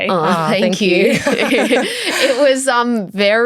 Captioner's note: chuckles